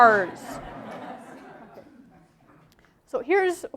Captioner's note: laughter